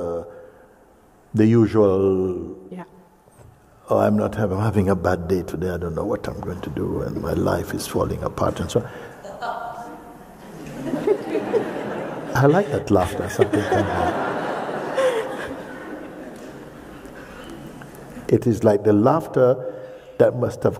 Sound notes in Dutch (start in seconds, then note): 9.3 een enkele lach klinkt; 13.2 lacht